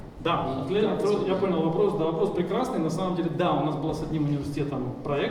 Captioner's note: speaking in foreign language